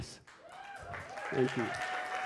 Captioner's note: audience cheers